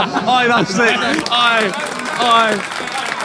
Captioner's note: people in room laughing and applauding